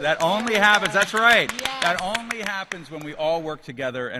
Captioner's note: applause